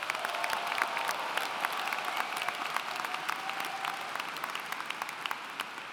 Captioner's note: applauding